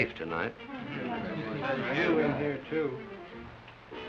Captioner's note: all mutter